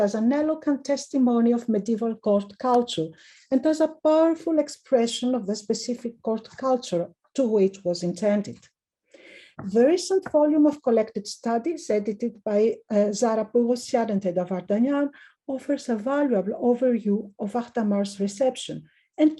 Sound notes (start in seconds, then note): 13.5 speaking in foreign language